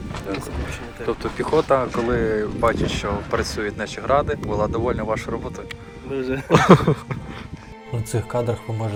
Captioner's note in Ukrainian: сміх